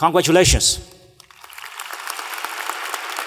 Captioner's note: applause